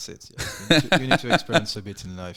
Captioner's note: laughing